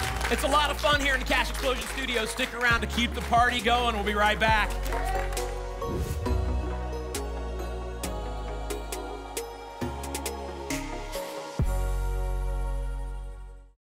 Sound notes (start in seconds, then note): 5.8 whoosh